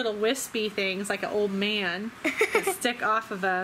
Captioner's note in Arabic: يضحك